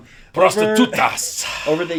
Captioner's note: speaking in foreign language